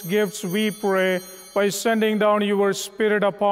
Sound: bell ringing

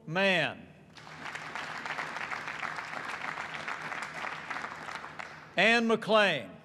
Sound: applause

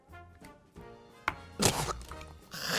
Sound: spits

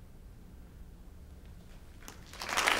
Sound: applause

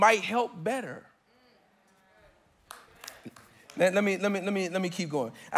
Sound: congregants affirming

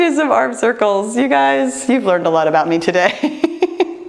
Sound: laughs

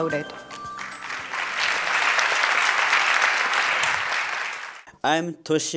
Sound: applause

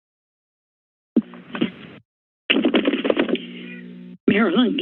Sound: silence; mic sounds

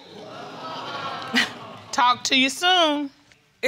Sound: audience gasping

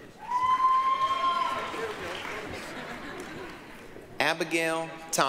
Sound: applause, cheering

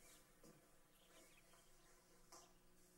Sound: none

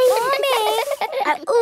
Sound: all giggling

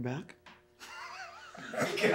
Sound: laughs

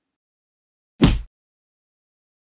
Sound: kick sound effect

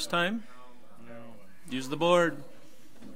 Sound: overlapping chattering

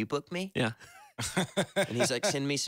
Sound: laughs

